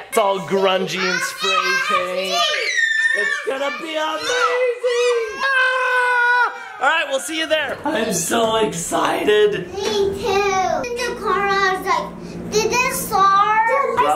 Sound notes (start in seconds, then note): 1.0 kid shrieks